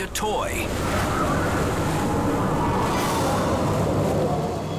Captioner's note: wind whooshes